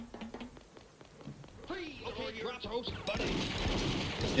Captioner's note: more vocalised challenges